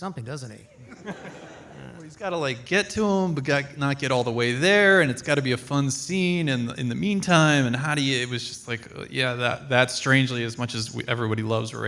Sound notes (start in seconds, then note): 0.8 audience laughs